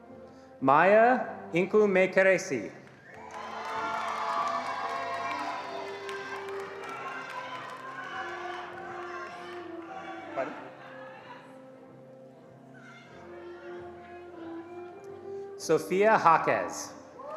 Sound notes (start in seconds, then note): 2.8 attendees cheering and applauding